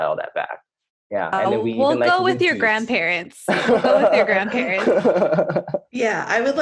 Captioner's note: laughing